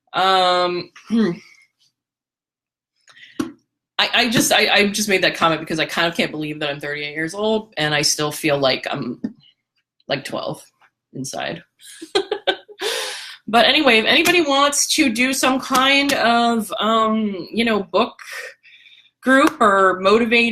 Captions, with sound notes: I just made that comment because I kind of can't believe that I'm 38 years old and I still feel like I'm 12 inside. (laughter) But anyway, if anybody wants to do some kind of book group or motivating,